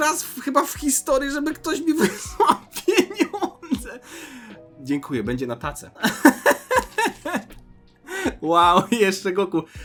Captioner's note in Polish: śmiech